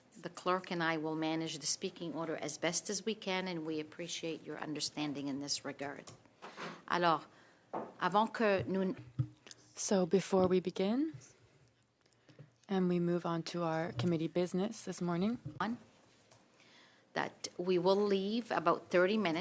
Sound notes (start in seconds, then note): 11.6 speaking French